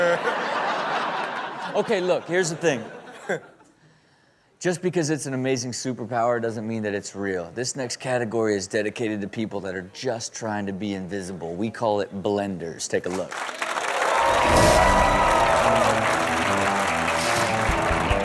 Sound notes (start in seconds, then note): 0.0 audience laughs; 13.3 crowd applaud and cheer; 14.4 adventurous music